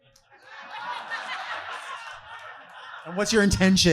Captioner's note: audience laughing